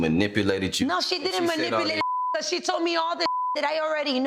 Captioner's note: beep